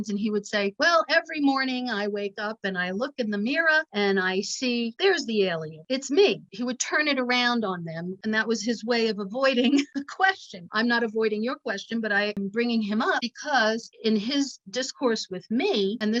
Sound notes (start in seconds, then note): 9.6 chuckling